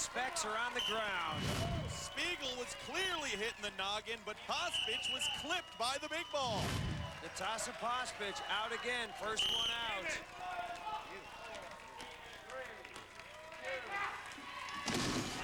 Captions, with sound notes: 'cause his specs are on the ground. Spigel was clearly hit in the noggin, but Pospich was clipped by the big ball. Natasha Pospich out again. First one out. [whistle blows] Game in!